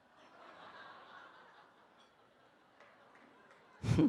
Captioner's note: participants laugh